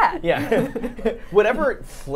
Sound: both laughing

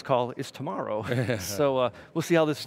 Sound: laughs

